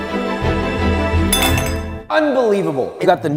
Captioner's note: spoon clattering